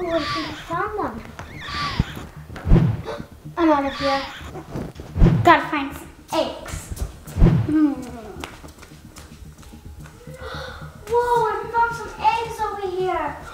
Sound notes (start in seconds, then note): 3.6 shrieks